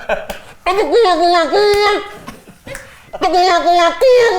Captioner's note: makes silly sounds and laughs; makes silly sounds